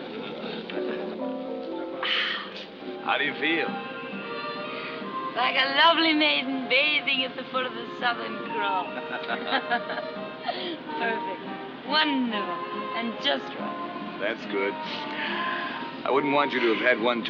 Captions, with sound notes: AHH! HOW DO YOU FEEL? LIKE A LOVELY MAIDEN BATHING AT THE FOOT OF THE SOUTHERN CROSS. [ BOTH LAUGH ] PERFECT... WONDERFUL... AND JUST RIGHT. THAT'S GOOD. I WOULDN'T WANT YOU TO HAVE HAD ONE TOO MANY.